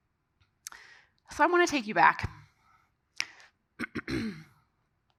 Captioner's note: clears throat